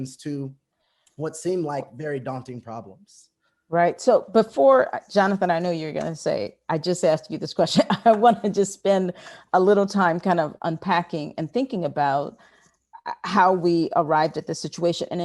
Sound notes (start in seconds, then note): 7.7 laughs